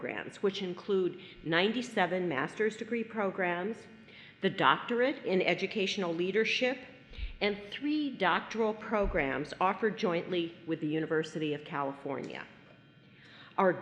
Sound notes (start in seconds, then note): none